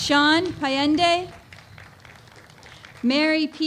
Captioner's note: applause